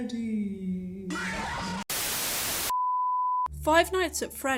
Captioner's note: Foxy yells; static